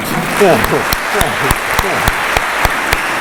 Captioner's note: applause